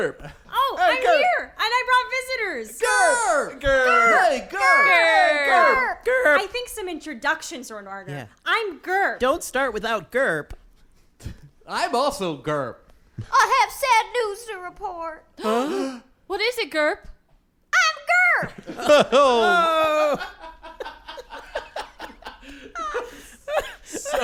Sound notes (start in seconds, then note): 2.9 in various voices; 15.4 the cast as Gurps gasp; 21.6 laughing